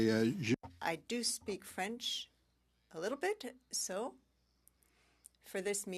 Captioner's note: speaking French